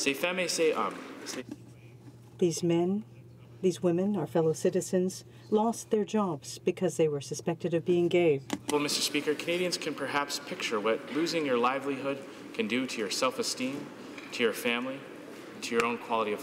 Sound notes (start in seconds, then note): 3.5 speaking French